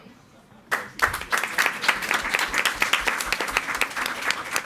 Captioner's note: all applauding